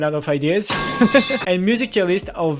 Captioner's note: laughs